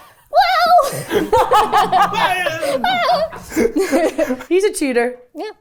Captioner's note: laughing